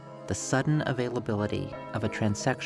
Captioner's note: church Bells